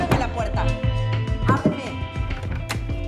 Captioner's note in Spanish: Golpes a la puerta